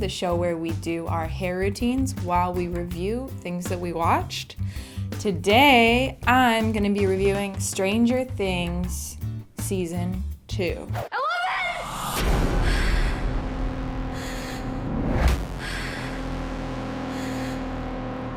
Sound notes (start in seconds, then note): 14.0 heavy breathing